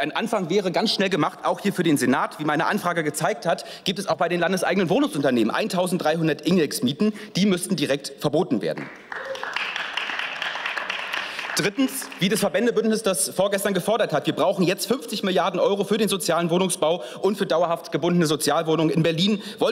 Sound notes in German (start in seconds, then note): 8.7 Beifall